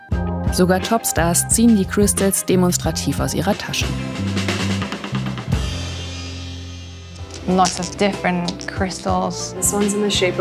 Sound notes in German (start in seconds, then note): 7.5 englisch